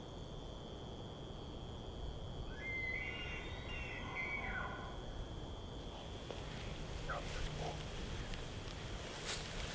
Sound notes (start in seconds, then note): 2.6 animal sounds